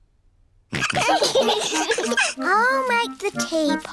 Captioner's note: all laughing